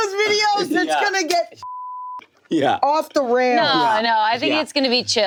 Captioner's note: beep